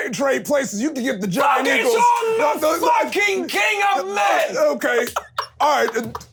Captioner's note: overlapping yelling